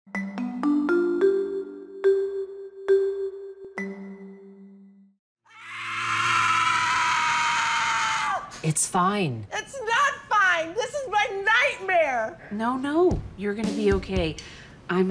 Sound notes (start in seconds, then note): 0.1 tonal music; 5.4 screaming